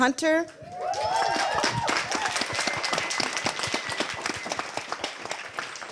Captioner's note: audience applause